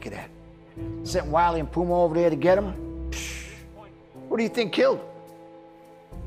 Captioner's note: scoffs